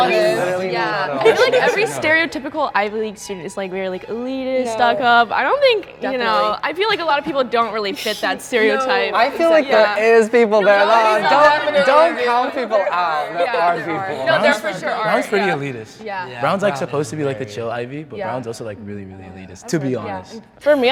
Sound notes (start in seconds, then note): 0.0 students laughing; 10.4 students arguing